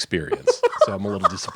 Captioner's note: laughing